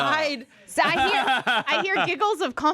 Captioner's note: laughs